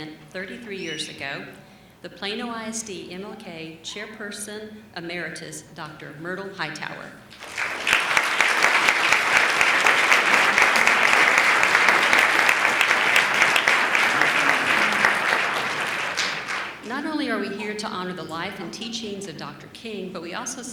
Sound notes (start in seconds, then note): 7.3 applause